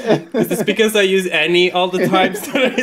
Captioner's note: laughing